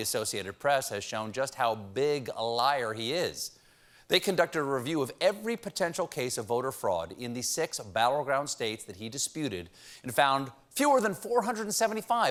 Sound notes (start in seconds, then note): none